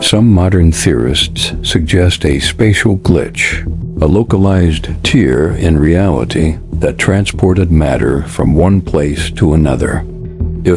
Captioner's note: sarcastic Commentary